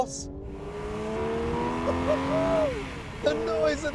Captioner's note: car roars